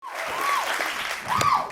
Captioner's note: cheers and applause